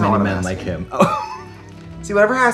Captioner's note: Katya laughs